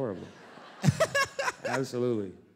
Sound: laughter

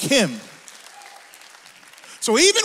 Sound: audience applauds; audience cheers

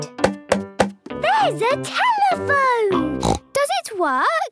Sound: snorts

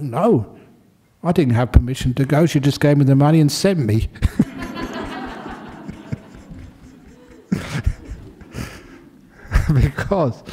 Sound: laughter

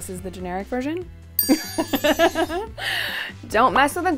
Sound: bell dings

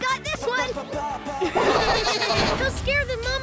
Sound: laughing

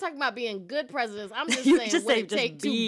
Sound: laughter

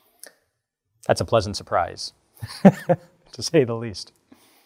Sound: laughs

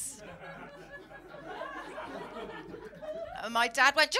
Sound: laughter

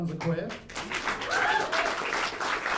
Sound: applause

